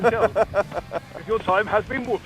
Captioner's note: laughs